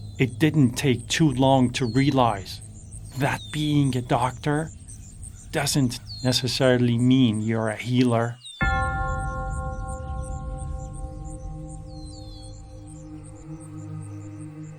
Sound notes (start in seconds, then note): 0.0 birds chirping; 8.6 bell clanging; 10.1 chanting music